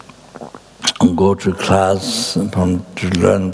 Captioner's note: tibetan